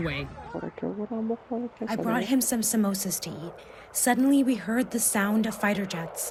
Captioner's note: through translator